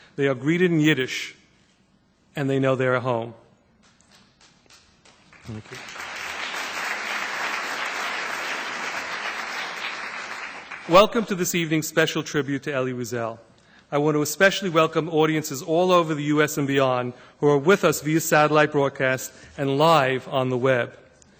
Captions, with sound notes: they are greeted in Yiddish, and they know they are home. (applause) Welcome to this evening’s special tribute to Elie Wiesel. I want to especially welcome audiences all over the U.S. and beyond, who are with us via satellite broadcast and live on the web.